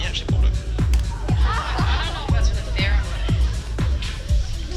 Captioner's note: laughing